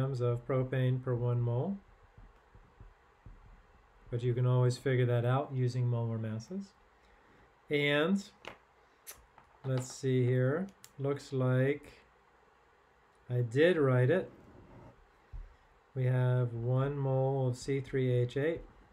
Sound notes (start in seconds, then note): 9.6 pen clanking